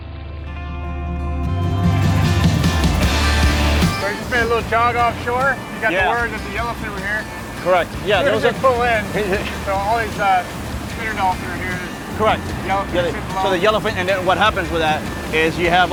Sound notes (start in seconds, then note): 0.1 upbeat music; 4.3 murmuring